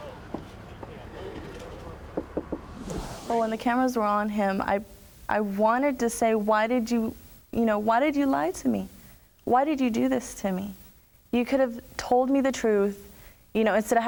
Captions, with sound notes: [KNOCKS] Well, when the cameras were on him, I wanted to say, why did you-- why did you lie to me? Why did you do this to me? You could have told me the truth instead